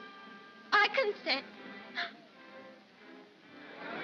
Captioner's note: sobbing